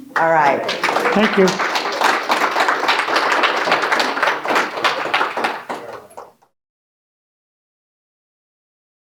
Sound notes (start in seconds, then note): 2.0 audience applauding